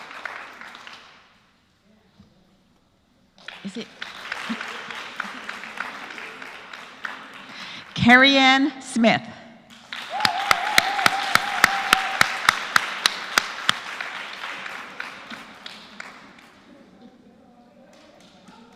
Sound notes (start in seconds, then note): 0.0 applause; 6.3 applause